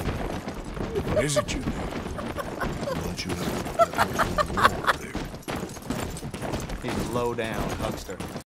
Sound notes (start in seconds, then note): 0.9 laugh of someone losing their sanity; 3.6 laughing at the horse